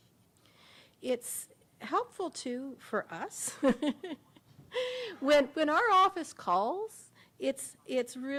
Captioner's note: laughter